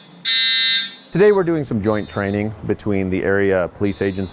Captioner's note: alarm buzzing